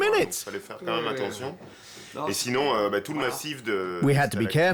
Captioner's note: speaking French